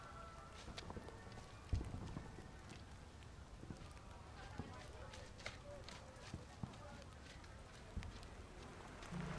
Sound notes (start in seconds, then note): 4.4 distant chatter